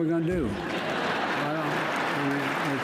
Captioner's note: laughter and applause